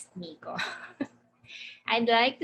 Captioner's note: laughing